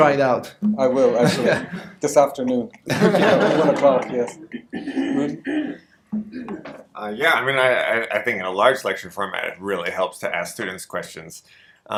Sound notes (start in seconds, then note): 2.8 audience laughter